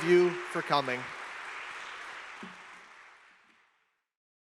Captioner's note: students applauding